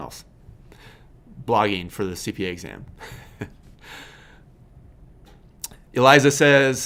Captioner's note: laughs